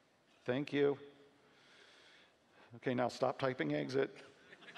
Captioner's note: laughing